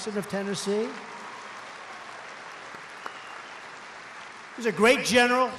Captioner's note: applause